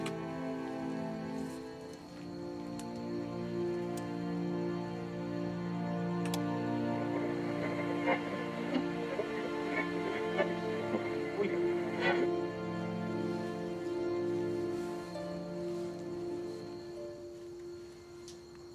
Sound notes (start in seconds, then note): 7.0 radio crackling